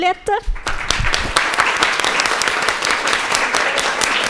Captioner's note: audience clapping